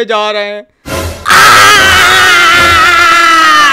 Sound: shouting in tremendous pain

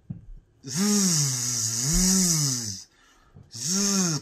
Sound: buzzing

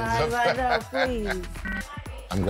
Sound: laughing

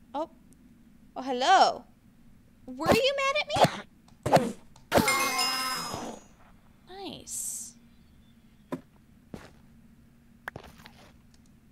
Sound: enderman teleports

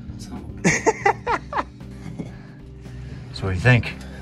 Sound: laughs

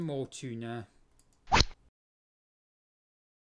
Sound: rod sound

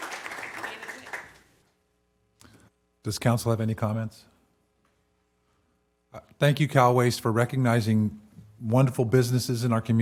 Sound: applause

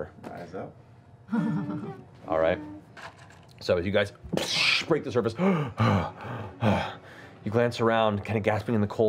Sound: gasping

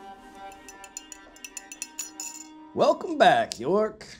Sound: mug clinking

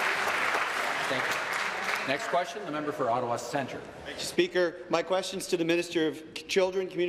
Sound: applause

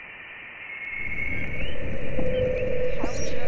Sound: humming

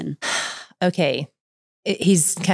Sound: sighs

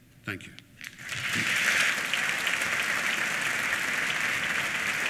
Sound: applause

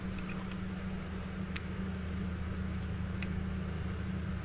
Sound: parts rustling

